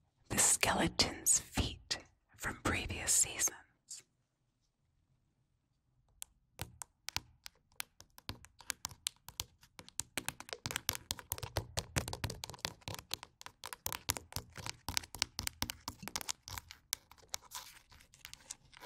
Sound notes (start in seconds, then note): 6.1 tapping bones